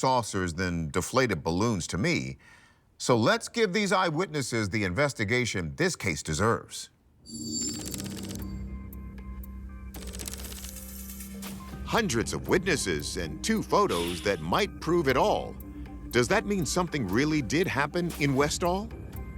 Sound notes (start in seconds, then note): 7.1 keys clicking; 7.1 suspenseful music